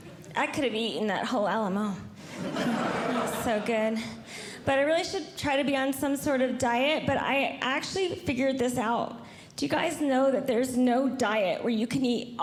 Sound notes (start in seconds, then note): 2.2 audience Laughing